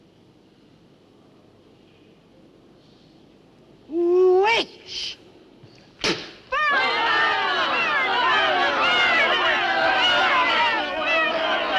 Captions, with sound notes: Witch! (Spits) (Crowd chants) Burn her! Burn her! Burn her!